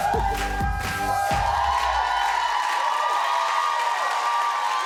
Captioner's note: applause